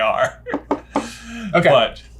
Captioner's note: laughs